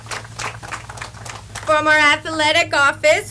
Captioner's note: audience applauds